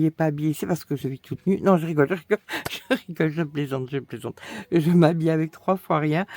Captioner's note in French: rires